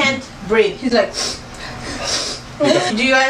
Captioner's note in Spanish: snif